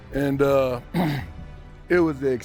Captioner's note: clearing throat